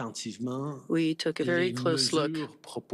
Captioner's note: speaking FRENCH